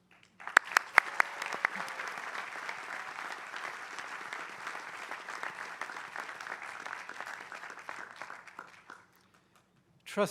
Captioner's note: applause